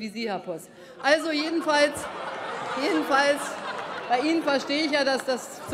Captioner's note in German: Heiterkeit bei der CDU/CSU und der FDP